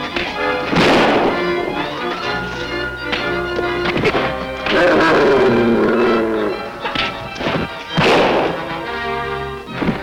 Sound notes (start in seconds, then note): 0.6 bang; 4.7 barking and growling; 7.9 bang